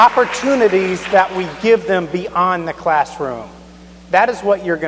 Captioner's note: applause